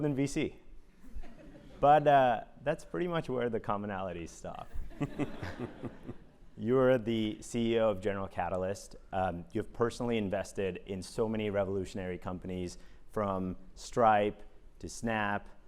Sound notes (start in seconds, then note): 5.0 laugh